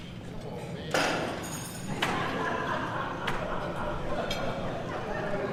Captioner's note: audience laughs